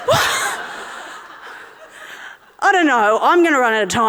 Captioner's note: audience laughing